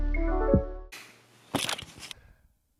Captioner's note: outro music plays; sound of camera falling